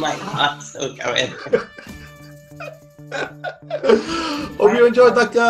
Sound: laughing

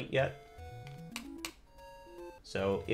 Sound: D-Pad clicks

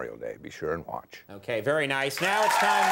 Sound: audience cheers

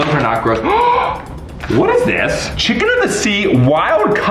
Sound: gasps

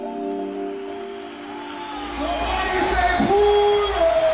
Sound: crowd cheering loudly

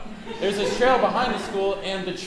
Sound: audience laughing

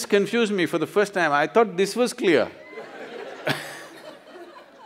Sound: laughter

